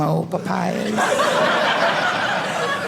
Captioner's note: audience laughing